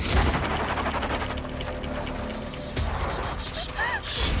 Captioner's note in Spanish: Sollozos